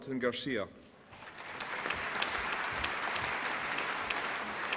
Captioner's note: applause